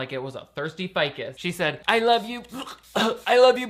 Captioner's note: gagging